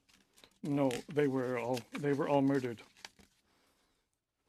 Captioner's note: reading names in french